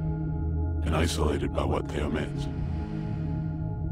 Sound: low Voice

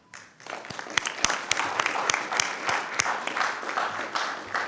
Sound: attendees applauding

